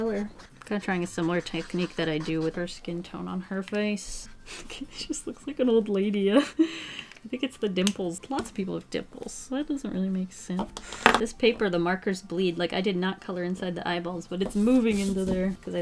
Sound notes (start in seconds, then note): 6.2 giggles